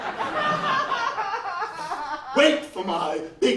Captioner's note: laughs